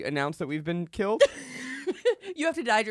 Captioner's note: laughs